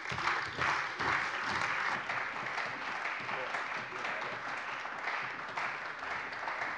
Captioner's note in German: Beifall bei der CDU und dem BÜNDNIS 90/DIE GRÜNEN